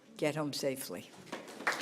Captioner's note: applause